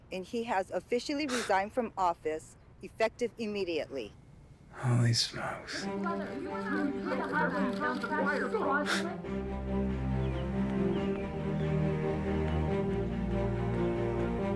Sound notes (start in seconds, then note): 6.3 reporters clamoring; 9.8 inspiring music